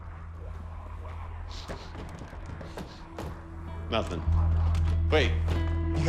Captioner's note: sniffs